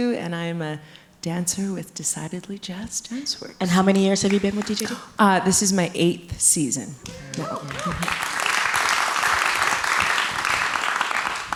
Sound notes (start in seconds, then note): 7.0 audience clapping; 7.0 audience cheering